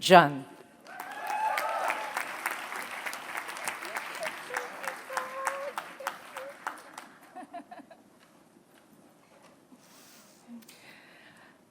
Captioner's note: applause